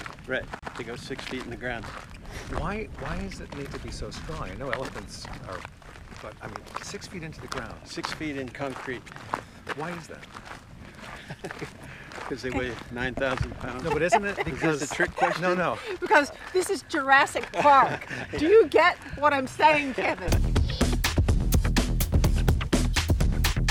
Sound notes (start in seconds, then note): 11.0 chuckling; 13.5 laughing; 20.1 upbeat house music